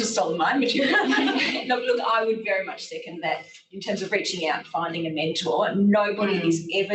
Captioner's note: laughter